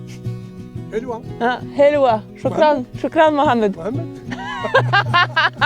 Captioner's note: both speak foreign language; both laugh